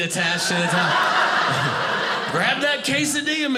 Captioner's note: audience laughing